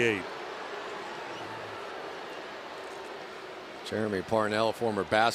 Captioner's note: booing